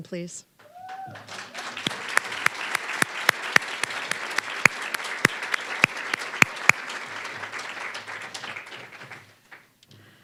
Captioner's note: applause